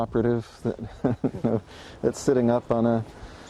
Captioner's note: chuckling